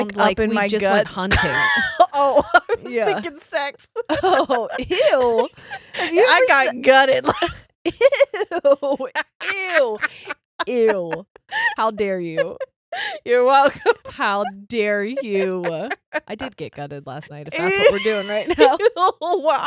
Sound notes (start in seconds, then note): 1.2 laughing; 11.6 laughing; 15.7 laughing